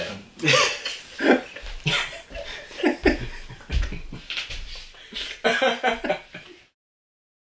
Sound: laughing

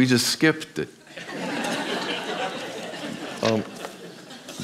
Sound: audience laughs

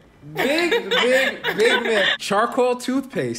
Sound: laughs

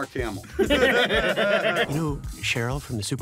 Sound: laughing

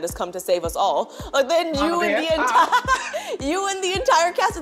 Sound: both laugh

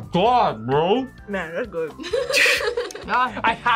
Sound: laughs

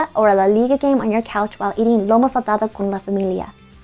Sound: speaks foreign language

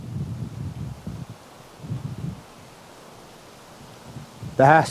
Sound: soft wind

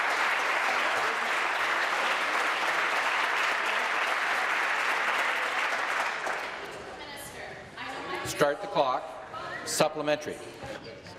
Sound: applause

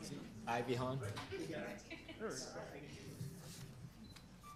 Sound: group chatter

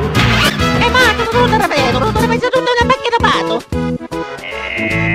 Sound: italian Gibberish

